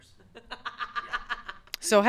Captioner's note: laughs